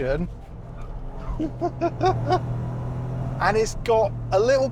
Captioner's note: laughs